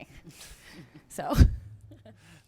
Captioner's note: laughter